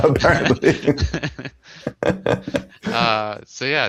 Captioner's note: laughter